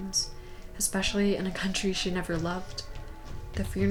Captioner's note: footsteps